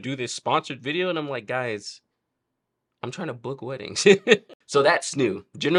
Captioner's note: laughs